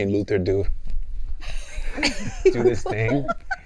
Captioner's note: laughing